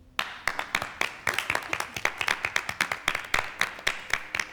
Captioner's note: spectators clap